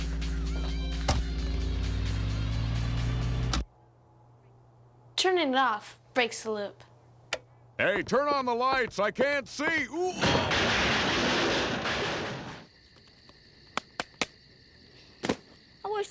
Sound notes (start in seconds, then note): 10.2 <i> crashing</i>